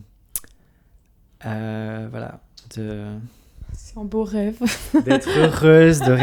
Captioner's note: laughs